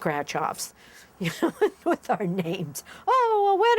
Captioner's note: chuckles